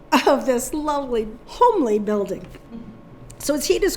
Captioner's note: chuckling